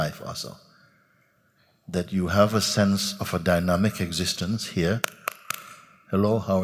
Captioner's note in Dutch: klapt in handen